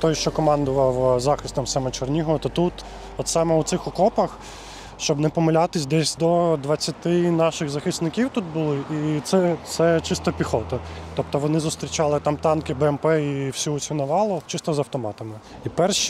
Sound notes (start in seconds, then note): 13.9 russian